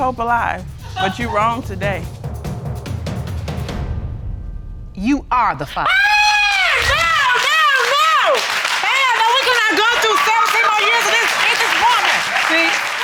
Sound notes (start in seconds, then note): 1.5 audience laughs; 5.8 screams; 6.1 audience applauding